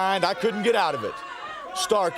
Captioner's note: crowd cheering